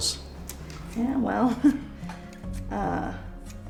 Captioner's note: chuckles